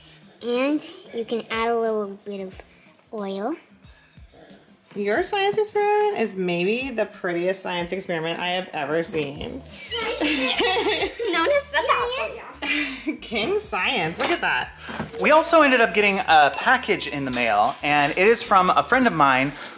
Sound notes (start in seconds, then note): 9.8 laughing